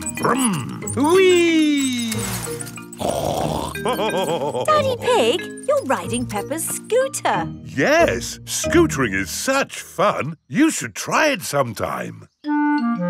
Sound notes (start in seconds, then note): 3.0 snorts and laughs